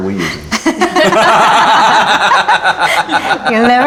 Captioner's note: laughing